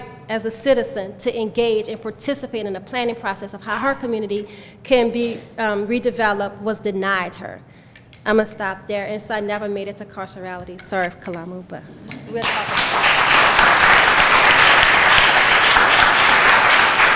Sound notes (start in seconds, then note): 12.4 clapping